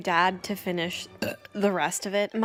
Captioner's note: burps